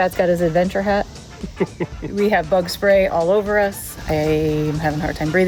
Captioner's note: laughs